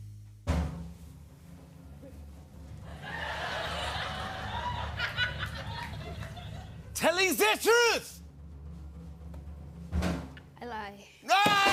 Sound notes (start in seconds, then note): 0.3 drum roll; 2.8 laughter